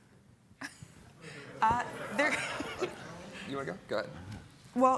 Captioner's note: all laughing